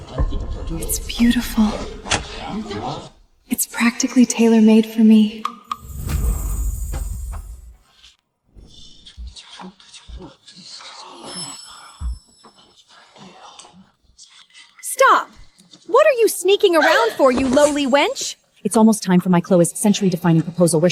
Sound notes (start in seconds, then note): 10.9 whispering